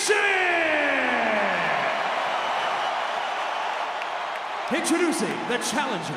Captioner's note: audience cheering